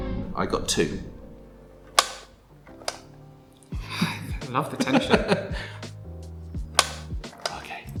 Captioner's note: plunger clicks